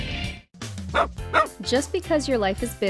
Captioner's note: dog barking